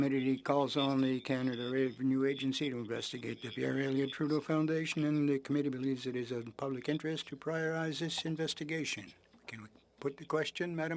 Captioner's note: speaking‘ç‘ç French